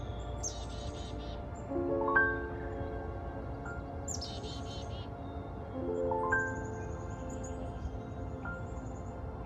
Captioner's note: birds singing, peachy pink and purple clouds, bare-branched trees